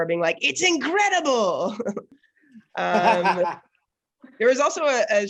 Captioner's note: all laughing